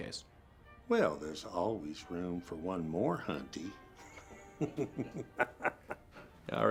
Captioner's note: laughs